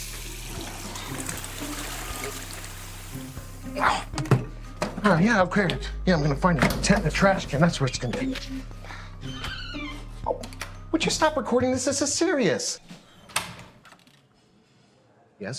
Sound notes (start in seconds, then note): 0.0 toilet flushing; 3.9 Oliver grunting